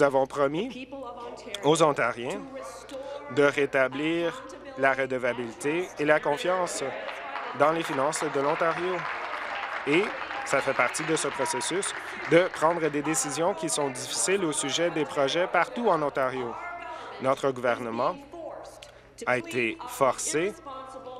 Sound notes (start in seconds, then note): 11.0 applause